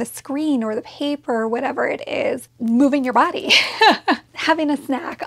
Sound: laughs

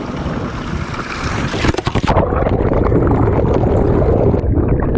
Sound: water gurgling

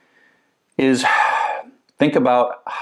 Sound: sighs

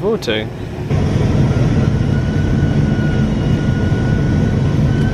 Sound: engine rumbling continues

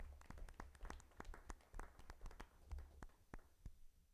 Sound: attendees applauding

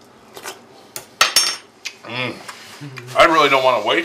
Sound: spoon clanks; laughs

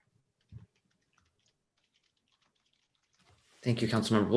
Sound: computer keyboard clicking

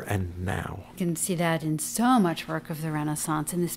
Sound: voiceover

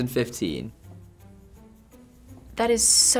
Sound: silence

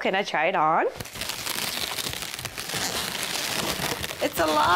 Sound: balloons rubbing, squeaking

